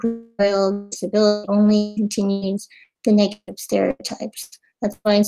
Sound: audio cutting out

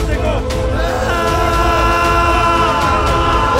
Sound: screams

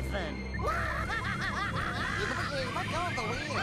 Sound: screaming

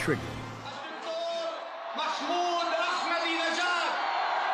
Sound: man speaking farsi

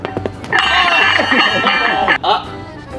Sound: group groaning in dismay; pole clanging; group groaning in dismay

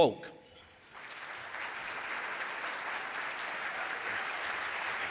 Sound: audience applauding

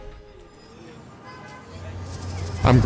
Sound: instrumental piano music plays over the sound of children playing; sound of street traffic

